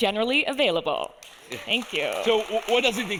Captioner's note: audience applauding